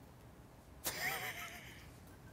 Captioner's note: laughs